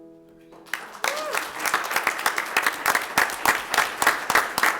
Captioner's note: audience applauds